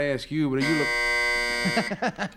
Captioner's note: buzzer buzzes